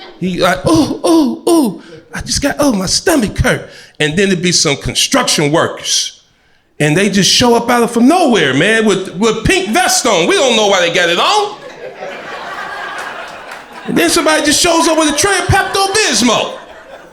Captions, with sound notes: He like, “Oh, oh, oh, I just got- oh my stomach hurt.” And there'll be some construction workers and they just show up out of nowhere, man, with a pink vest on. We don't know why they got it on. (crowd laughter) And then somebody just shows up with a tray of Pepto-Bismol,